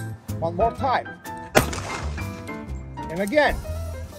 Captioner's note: pistol fires